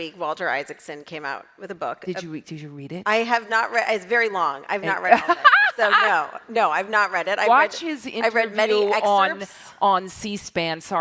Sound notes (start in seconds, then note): 4.8 Linda laughs